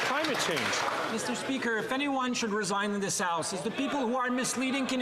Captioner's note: some Applause